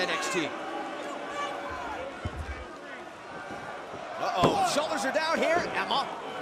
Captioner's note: crowd chatter